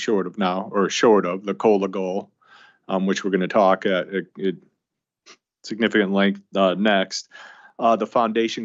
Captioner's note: snorts